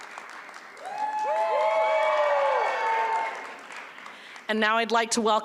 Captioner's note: applause